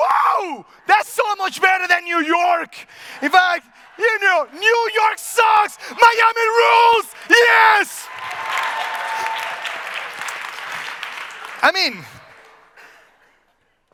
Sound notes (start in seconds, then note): 3.2 audience laughs; 7.5 audience cheers